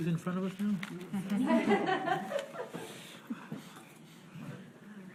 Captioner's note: board laughs